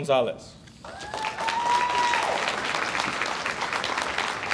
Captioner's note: audience applauds